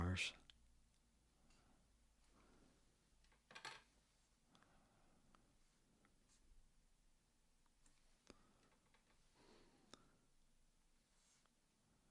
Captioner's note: silence